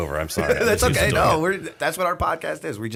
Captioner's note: laughter